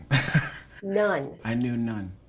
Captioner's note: laughter